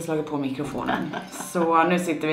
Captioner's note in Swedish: skratt